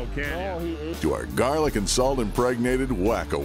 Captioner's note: voiceover